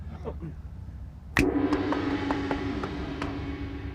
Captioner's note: gong; finger snap